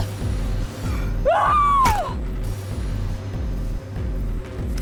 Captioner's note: yells